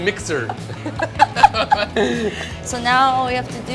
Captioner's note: laughing